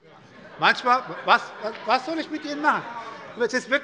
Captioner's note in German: Heiterkeit bei der SPD - Zurufe von der CDU